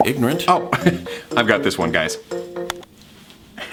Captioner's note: laughs